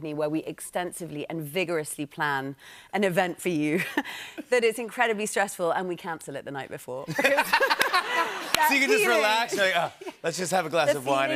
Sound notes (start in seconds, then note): 7.0 laughter